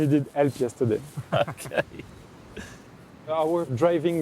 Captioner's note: group laughs